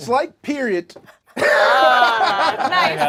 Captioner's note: group laughs